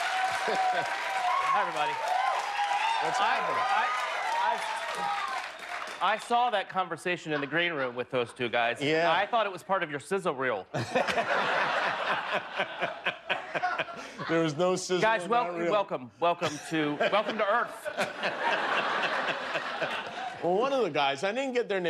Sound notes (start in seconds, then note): 7.6 cheers; 16.4 laughter